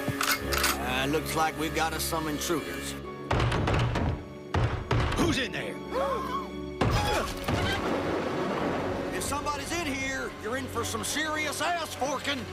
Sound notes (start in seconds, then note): 3.2 pounding; 5.7 both gasping; 6.9 grunts